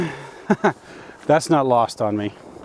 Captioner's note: laughs